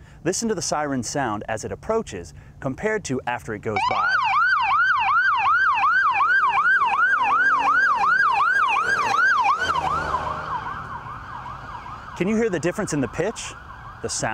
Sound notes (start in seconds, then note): 3.7 siren wailing